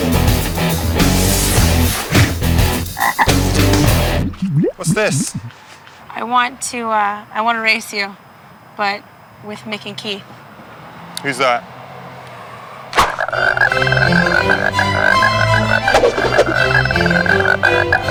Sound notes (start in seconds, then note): 0.3 lively guitar music; 2.9 frog croaks; 12.9 bright classical music; 13.0 frog croaks